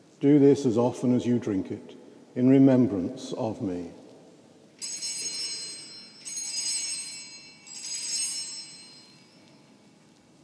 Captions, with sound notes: "Do this, as often as you drink it, "in remembrance of me." (bell rings)